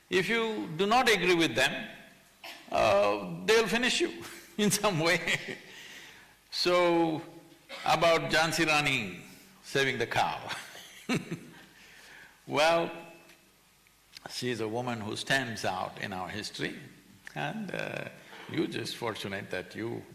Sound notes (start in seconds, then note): 5.8 laughs; 11.2 laughs